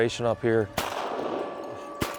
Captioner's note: gun shots